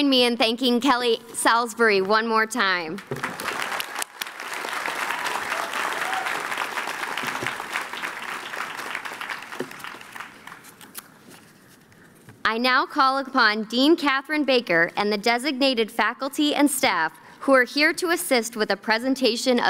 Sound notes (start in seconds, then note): 3.0 applause